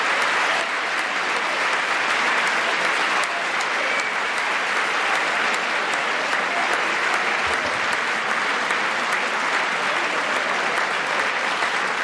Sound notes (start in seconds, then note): 0.0 applause